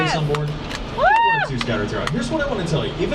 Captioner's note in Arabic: هتاف الركاب